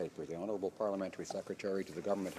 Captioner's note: speaking French